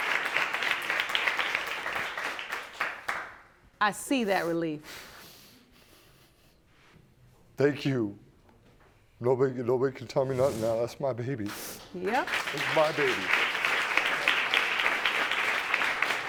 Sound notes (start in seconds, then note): 10.9 sniffling; 12.1 audience applauding